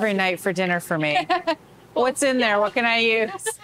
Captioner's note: softly laughs